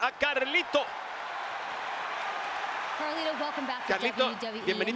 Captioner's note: applause